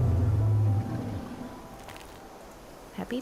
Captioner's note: triceratops 'social' roar sound